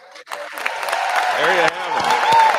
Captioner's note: applause